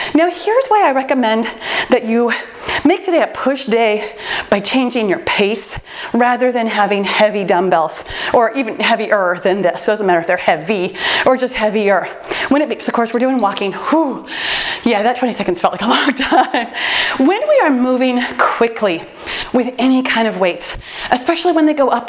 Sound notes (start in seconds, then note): 12.8 timer beeps; 16.8 laughs